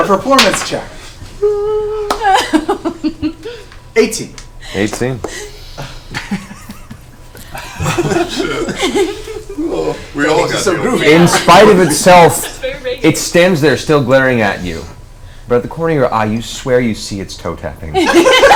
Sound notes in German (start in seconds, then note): 6.0 Gelächter